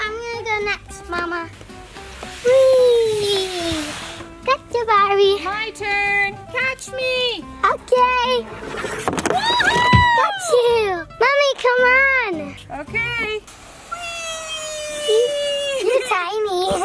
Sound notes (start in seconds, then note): 8.4 doll sliding; 14.4 Adley laughing